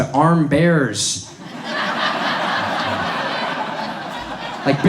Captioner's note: audience laughs